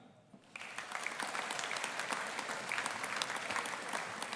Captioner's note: audience applauding